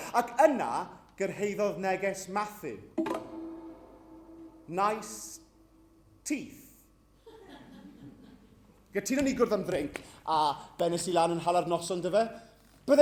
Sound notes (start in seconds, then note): 3.0 grindr pings